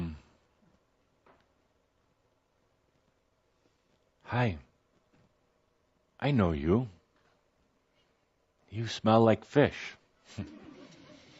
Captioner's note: quiet laughter